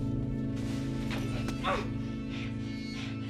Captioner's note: Joe moans